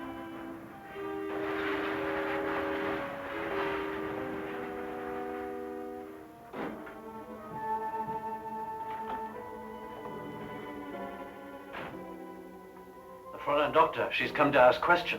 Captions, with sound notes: (pensive orchestra music) (car door closing) - The foreign doctor, she's come to ask questions.